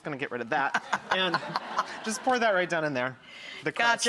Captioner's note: laughing